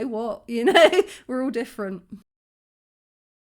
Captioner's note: laughing